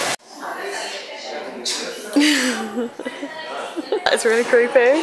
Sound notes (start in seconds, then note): 2.1 more laughing at unfortunate existence